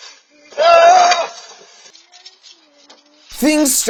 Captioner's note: kids screaming